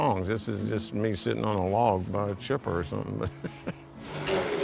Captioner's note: chuckles